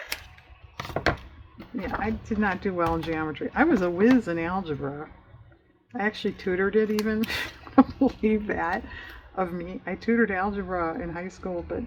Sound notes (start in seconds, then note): 7.0 laughs